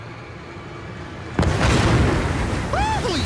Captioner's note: explosion